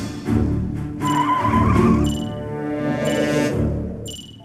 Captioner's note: dramatic music; tires squealing